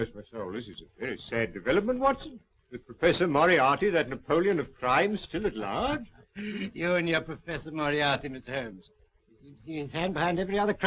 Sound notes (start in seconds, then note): 5.7 laughing